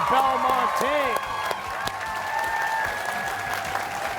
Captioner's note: cheers and applause